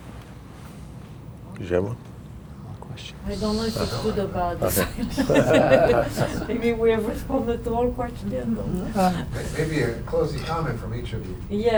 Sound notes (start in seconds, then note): 5.1 crowd laughing